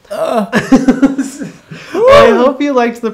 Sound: laughing

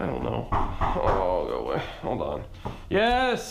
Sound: knocking

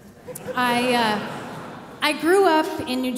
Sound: audience laughing

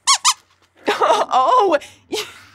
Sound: squeaks squeaking

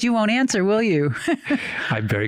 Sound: laughs

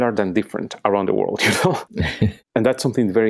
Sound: laughing

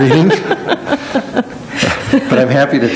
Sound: laughing

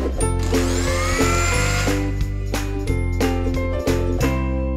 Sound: upbeat music; blender whirling

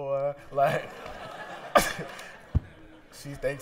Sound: laughter

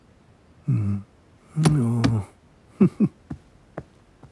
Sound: Simon sighs then chuckles

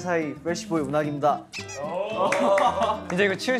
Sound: laughs

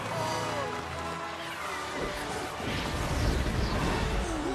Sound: crowd cheers

